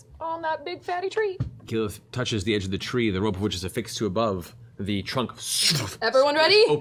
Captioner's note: portal opens